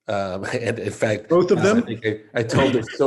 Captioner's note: laughs